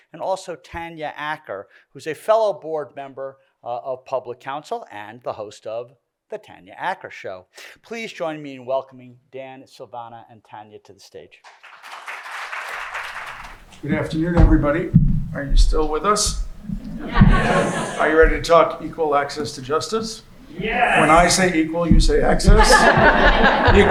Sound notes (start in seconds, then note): 11.4 applause